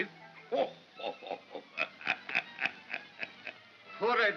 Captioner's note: Santa laughs